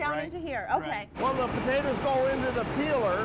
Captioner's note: machinery noise